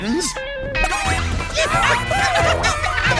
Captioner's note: clucking